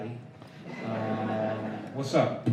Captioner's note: laughter